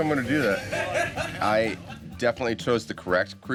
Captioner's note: laughing